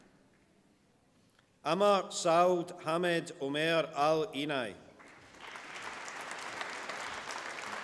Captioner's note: applause